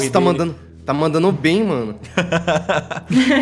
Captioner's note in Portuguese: Risadas